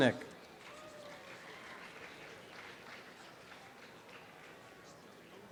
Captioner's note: students cheer and applaud